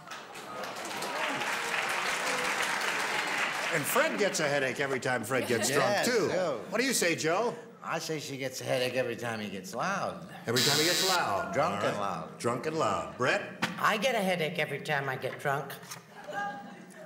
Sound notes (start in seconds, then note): 0.0 applause; 10.5 buzzer sounds